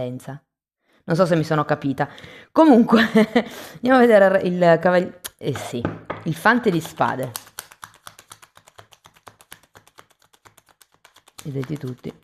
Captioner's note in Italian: risate